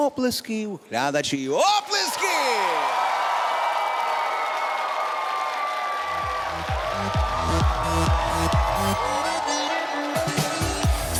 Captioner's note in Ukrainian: оплески